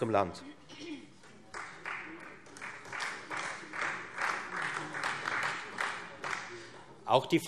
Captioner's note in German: Beifall Freie Demokraten und vereinzelt SPD